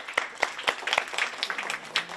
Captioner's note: applause